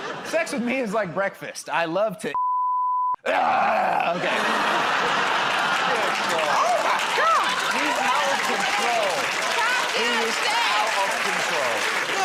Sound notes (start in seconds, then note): 3.3 grunts